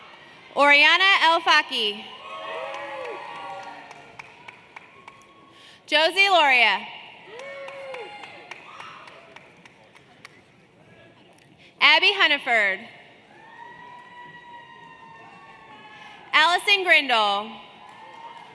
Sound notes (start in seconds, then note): 6.2 cheers and Applause